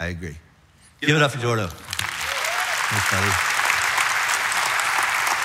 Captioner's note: audience applauds